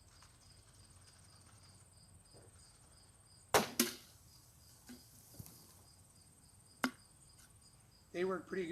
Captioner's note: pow